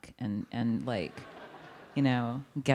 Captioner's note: audience laughing